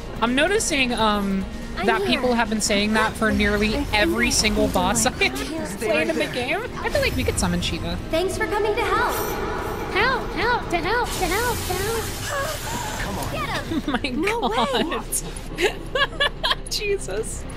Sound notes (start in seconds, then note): 9.9 mimicking Echo; 15.5 laughter